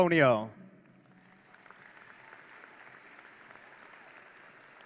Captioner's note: audience cheering